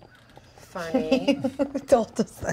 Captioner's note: laughs